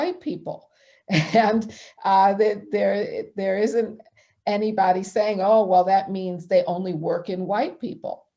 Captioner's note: chuckling